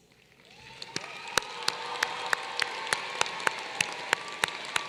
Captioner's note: applause